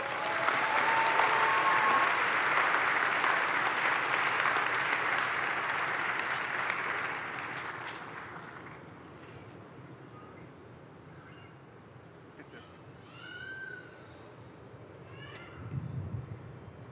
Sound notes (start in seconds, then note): 5.3 cheering and Applause